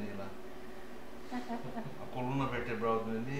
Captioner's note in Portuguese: risos